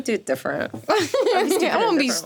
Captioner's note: laughing